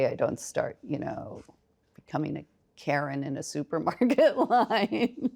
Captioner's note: laughs